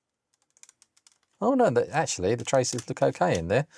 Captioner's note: keyboard Clacking